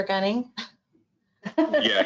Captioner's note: laughter